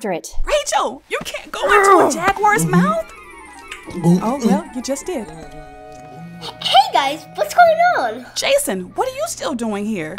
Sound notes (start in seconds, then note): 1.6 sound of struggling, chewing